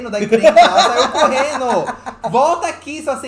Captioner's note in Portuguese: gargalha